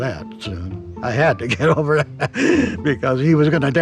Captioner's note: laughs